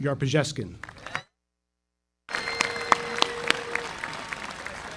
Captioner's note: audience applauding